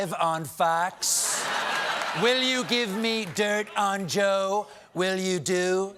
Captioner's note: laughter